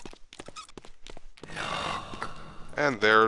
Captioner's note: disembodied Voice